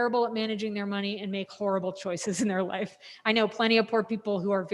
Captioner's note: laughs